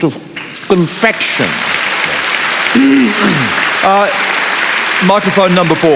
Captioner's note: applause